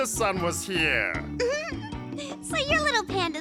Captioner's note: giggles